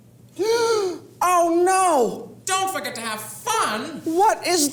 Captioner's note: gasp